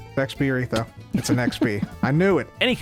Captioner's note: giggles